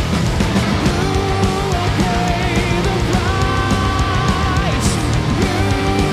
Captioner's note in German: mit heller Stimme